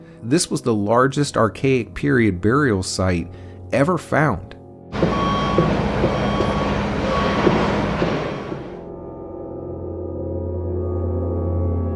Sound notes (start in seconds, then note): 4.9 excavator beeping and cranking; 8.7 suspenseful music